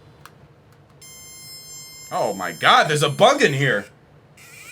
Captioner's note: buzzing; buzzing changes pitch as he moves the scanner